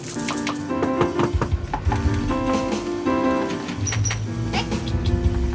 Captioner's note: exciting music; door knocking